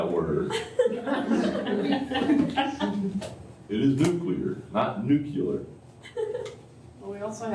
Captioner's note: laughter